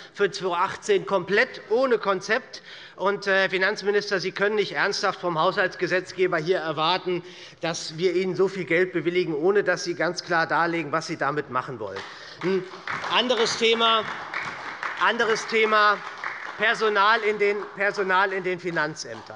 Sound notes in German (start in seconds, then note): 11.9 Beifall bei der SPD